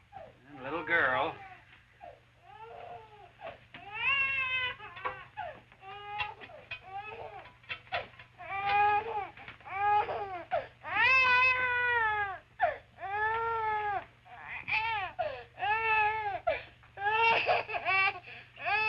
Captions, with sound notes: And the little girl? (baby continues wailing)